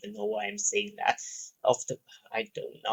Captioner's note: breathes